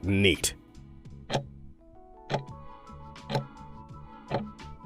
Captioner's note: timer ticking